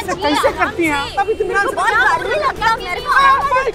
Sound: everyone clamouring

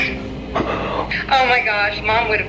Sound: gasps

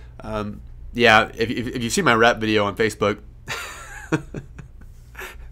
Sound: laughs

